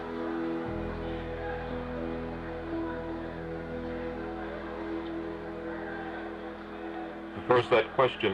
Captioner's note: people talking in background